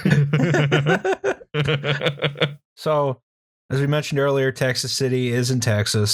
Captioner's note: laughter